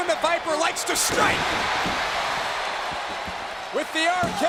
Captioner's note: audience cheering